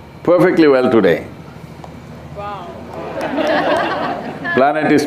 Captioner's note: laughter; 笑聲